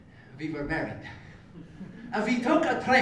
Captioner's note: laugh